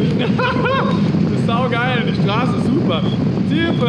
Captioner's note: laughs